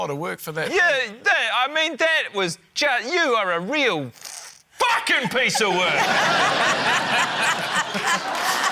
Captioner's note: laughter